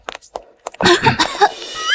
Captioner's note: cough, cough